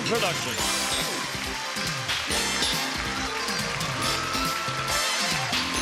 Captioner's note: applause, theme music